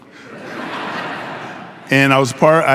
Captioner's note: audience laughing